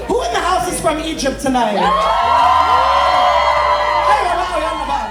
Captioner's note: people cheering